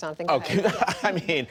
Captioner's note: laughter